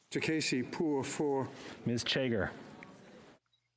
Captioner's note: speaking French